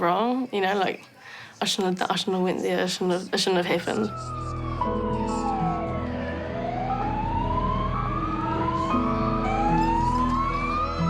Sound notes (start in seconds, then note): 3.8 poignant music; 6.0 sirens wail